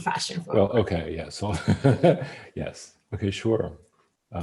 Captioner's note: laughs